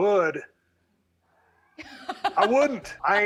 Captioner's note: laughs